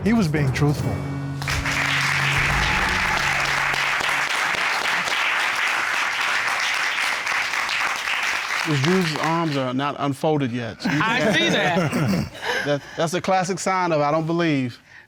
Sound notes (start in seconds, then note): 1.4 applause; 10.8 laughing